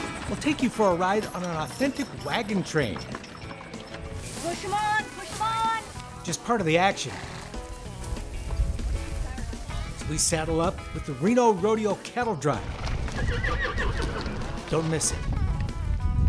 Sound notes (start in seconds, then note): 12.9 horse neighs